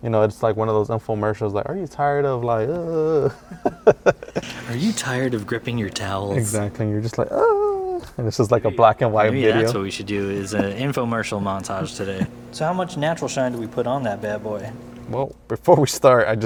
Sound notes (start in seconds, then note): 2.6 laughs